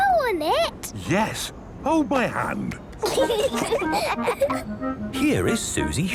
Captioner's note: children giggling